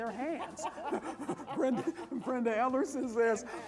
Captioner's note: laughter